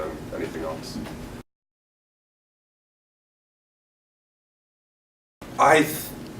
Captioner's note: silence